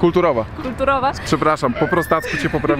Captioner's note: laugh